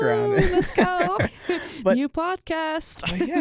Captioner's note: laughs